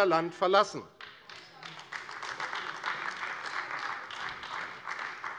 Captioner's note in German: Beifall AfD